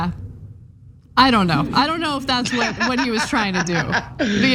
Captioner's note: laugh